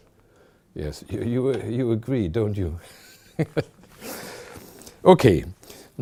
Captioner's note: pointing at the audience, chuckling